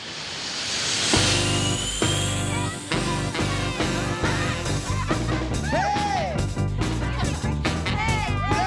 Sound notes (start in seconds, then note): 5.3 girls chatter